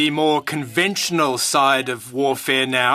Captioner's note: speaking French